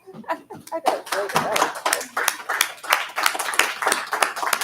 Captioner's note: board members applaud